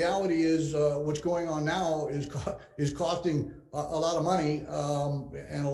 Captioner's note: chuckles